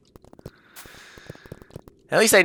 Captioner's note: breathing